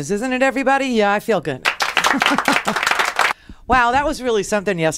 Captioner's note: applause